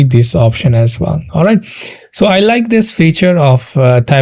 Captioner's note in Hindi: नाक से की जाने वाली आवाज़